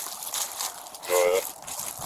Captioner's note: radio chatter